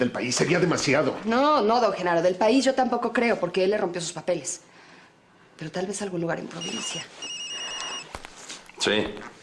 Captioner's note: phone ringing